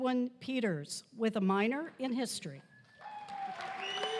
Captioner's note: applause